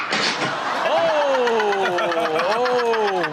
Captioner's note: Chanel laughs